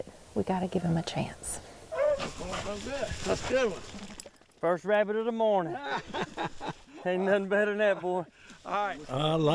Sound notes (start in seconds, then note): 5.6 laughing